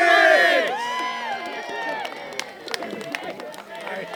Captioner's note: cheering